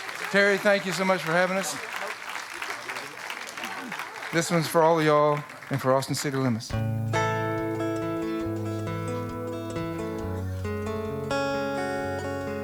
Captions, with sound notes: - Terry, thank you so much for having us. (audience clapping) This one's for all of y'all and for "Austin City Limits." (melodic acoustic music)